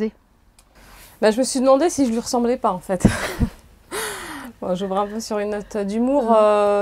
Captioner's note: chuckles